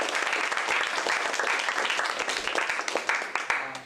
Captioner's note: applause